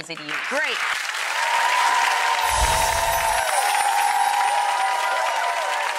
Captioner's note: audience applauding